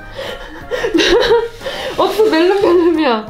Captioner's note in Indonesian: tertawa